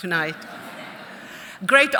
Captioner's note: audience chuckling